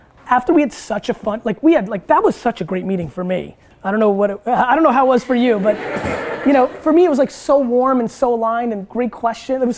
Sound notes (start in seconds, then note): 5.5 group laughter